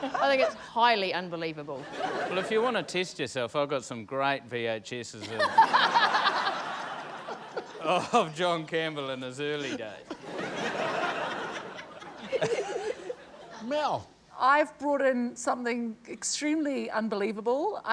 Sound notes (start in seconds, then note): 5.3 laughs; 9.5 laughs